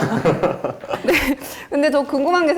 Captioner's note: awkward laughter